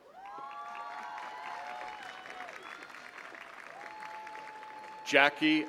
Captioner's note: attendees cheering and clapping